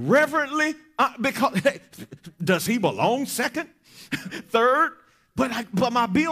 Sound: chuckles

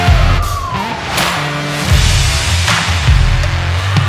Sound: siren blaring

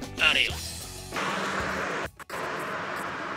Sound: voiceover

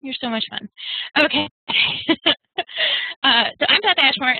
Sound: chuckling

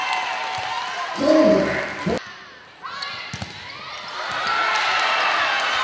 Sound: cheering; game noise; cheering

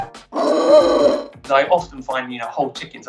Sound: pig squealing

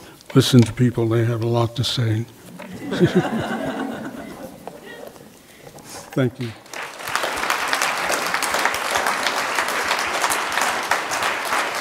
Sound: applause

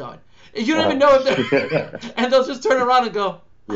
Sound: laughs

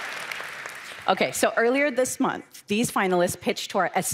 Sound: cheers

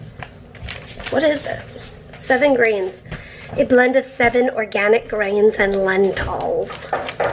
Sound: fancy voice

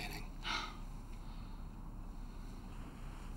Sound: Nancy sighs

